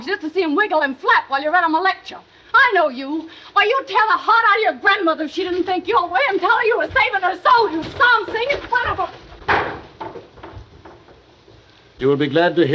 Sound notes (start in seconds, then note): 9.3 door banging